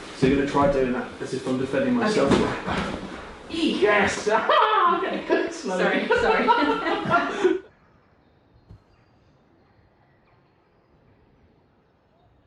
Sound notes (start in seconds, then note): 5.6 laughs